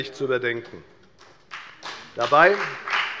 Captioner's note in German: Beifall bei der FDP